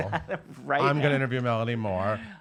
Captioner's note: laughing